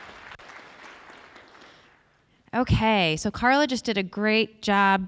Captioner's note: applause